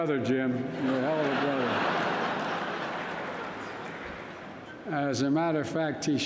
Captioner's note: laughter